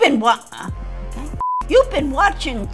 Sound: screen beeping

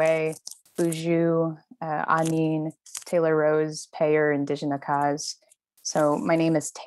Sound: speaking in a foreign language

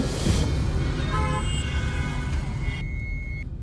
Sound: cars honking

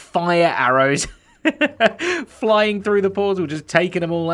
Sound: chuckles

